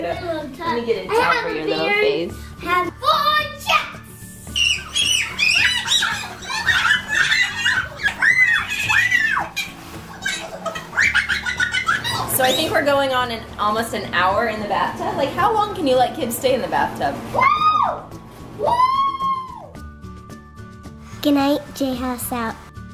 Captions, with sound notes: Let me get a towel for your little face. - Full jets! (both squealing) - So I think we're going on, almost an hour in the bathtub. Like how long can you let kids stay in the bathtub? I don't know. - Woo! Good night J House.